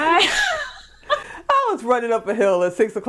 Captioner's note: laughing